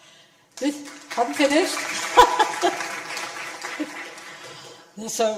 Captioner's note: audience applause